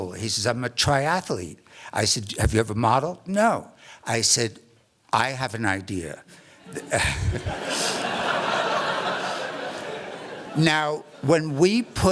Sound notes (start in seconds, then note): 6.6 laughter